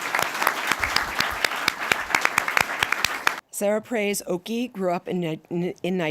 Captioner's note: applause